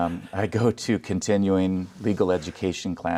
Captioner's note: laughing